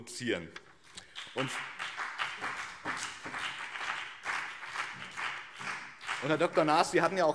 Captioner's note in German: Beifall BÜNDNIS 90/DIE GRÜNEN